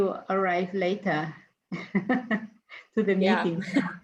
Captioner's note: laughs